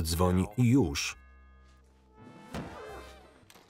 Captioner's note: doorbell ringing; thudding